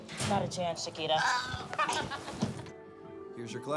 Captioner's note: girls laugh